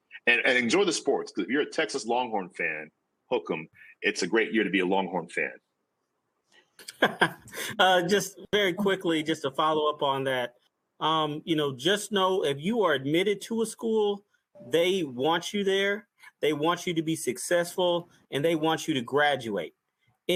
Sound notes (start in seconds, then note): 6.8 laughs